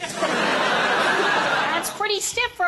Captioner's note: laughter